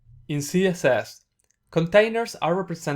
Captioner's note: voiceover